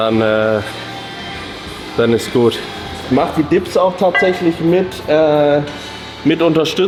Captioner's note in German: none